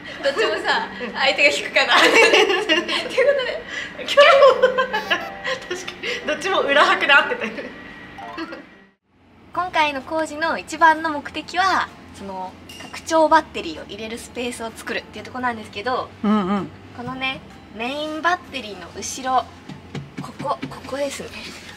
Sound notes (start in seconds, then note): 8.1 laughs